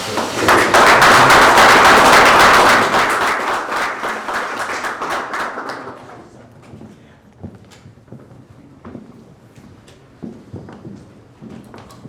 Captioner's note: applause